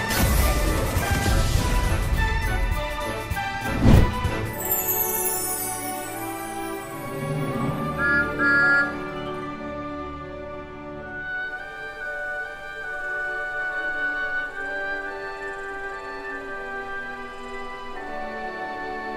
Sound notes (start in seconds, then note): 8.0 thomas whistling